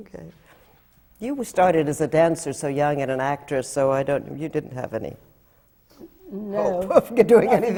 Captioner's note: laughs